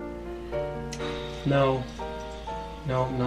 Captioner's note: sighs